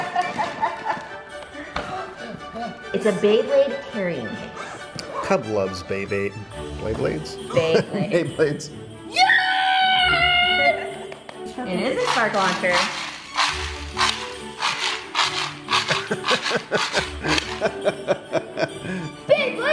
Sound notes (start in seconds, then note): 0.0 laughing; 2.5 christmas music playing; 7.5 laughing; 15.8 laughing